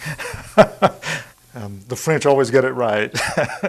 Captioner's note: laughing